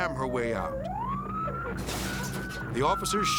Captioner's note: sirens blaring; car crashing